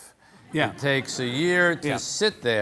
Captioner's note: audience laughing